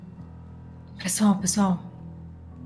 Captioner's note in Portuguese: sussurra